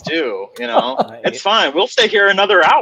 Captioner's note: laughing